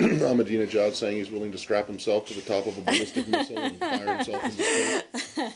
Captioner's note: laughter